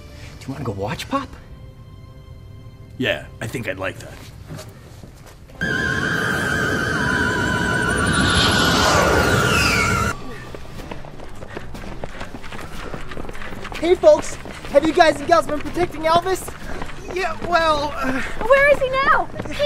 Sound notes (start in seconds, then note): 5.6 eerie music; 8.2 ship soaring